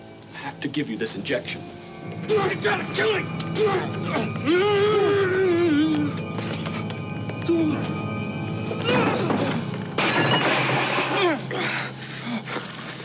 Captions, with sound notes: I have to give you this injection. - You're trying to kill me! [yells] [thud] [crash]